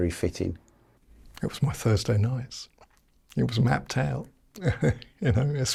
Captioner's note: chuckles